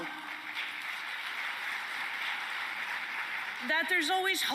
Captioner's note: applause